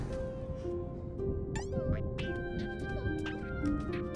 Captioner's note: caterpillar noises